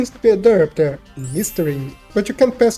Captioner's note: sparkly sounds to make it seem important